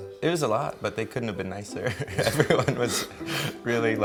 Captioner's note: chuckles